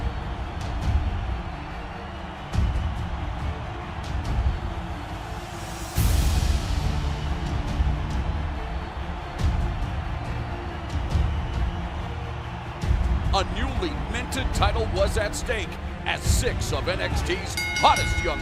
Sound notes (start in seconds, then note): 8.1 crowd cheering